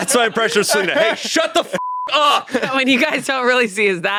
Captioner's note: beep